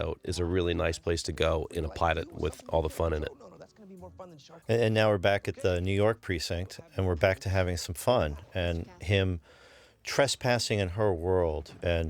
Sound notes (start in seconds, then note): none